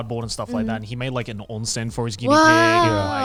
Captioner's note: speaking in Japanese